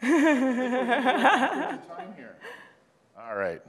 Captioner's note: laughter